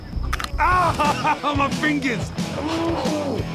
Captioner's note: crunching